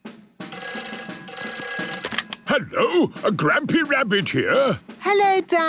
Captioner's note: phone ringing